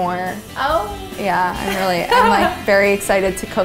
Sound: laughs

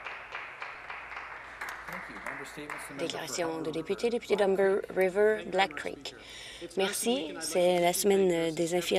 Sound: some Applause

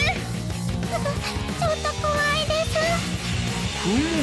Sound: gasp...!

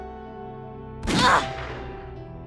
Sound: gunshot

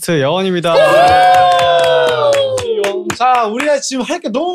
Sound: applause

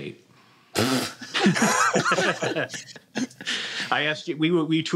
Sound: laughter

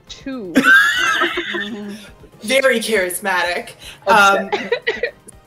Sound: laughing

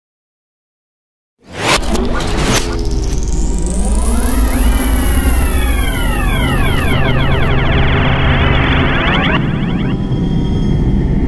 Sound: sound of science fiction

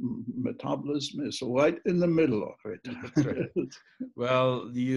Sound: laughing

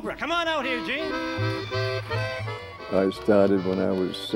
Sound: audience applauding

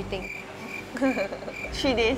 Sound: laughs

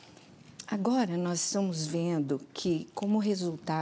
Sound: speaking portuguese

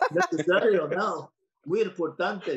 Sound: speaking Spanish

